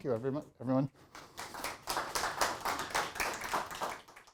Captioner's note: audience applauds